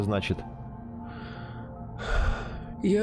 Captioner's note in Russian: вздох